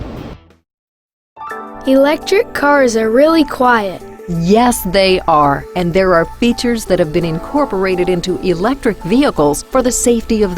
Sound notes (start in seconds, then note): 1.6 voiceover